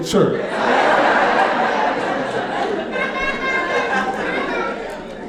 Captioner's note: audience laughing